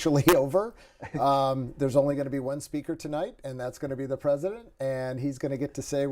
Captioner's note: laughter